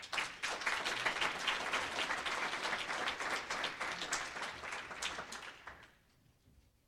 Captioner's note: applause